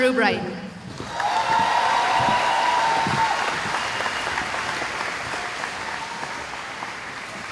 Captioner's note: cheering